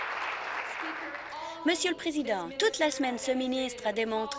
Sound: applause

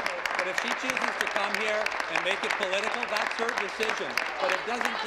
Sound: applause

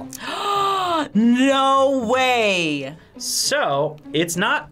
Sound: gasps

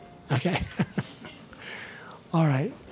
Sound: laughs

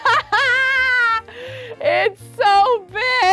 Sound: laughing

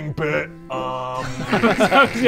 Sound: useless giggles

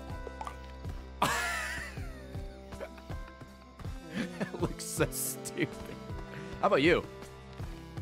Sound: laughs

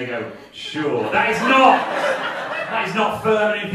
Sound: audience laughing

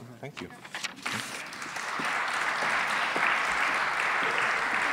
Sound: applause

